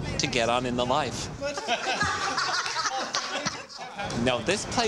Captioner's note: laughter